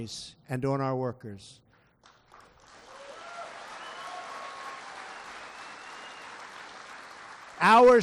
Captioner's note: applause